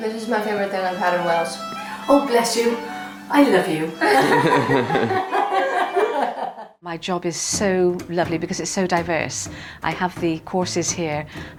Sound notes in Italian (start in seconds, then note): 4.0 Risata